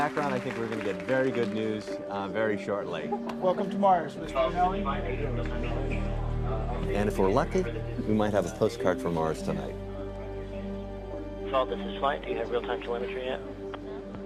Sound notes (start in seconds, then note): 8.4 murmurs